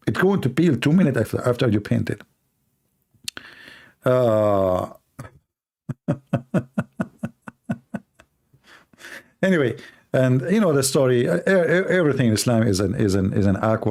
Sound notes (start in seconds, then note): 5.9 Ketawa